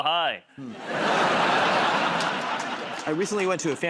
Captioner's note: laughter